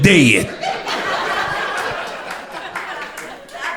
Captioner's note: crowd laughter